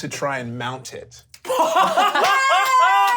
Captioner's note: laughs